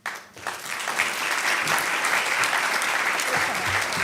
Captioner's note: applause